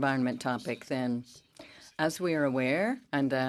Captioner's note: speaking French